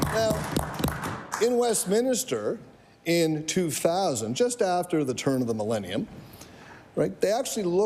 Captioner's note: applause